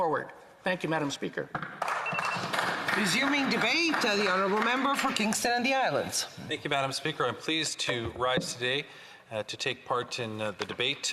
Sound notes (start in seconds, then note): 4.2 some Applause